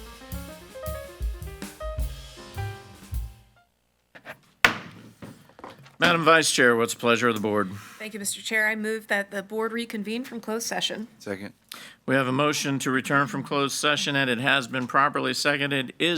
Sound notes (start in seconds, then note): 4.6 hammer slamming